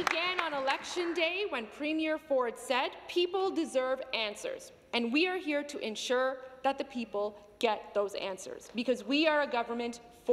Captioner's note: some Applause